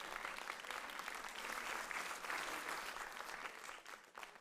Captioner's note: audience applauds